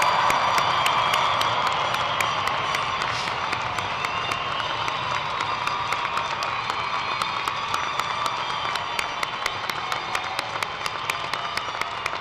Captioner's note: cheers and applause